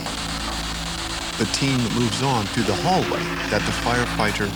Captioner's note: voiceover